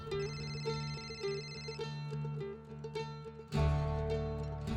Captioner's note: phone ringing